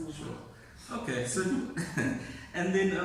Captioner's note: laughs